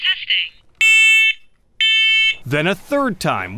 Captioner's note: recorded Woman's Voice; smoke alarm blaring